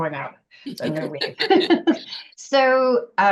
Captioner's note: laughter